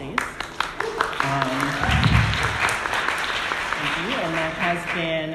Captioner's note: audience applauding